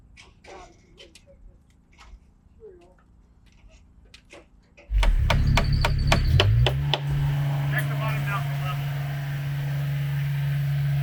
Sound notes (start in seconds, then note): 4.9 machine thrumming; 6.7 hammer knocking